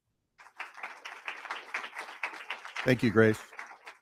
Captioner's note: crowd applauding